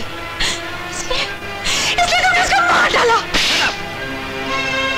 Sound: slaps

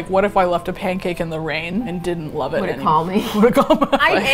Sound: laughs

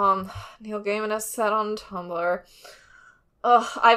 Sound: sighs

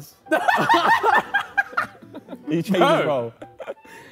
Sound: Sidemen laugh

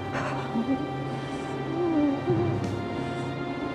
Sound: Alex humming

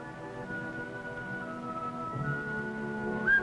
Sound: bobwhite call

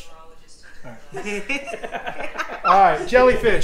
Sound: laughs

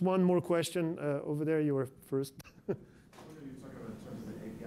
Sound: laughs

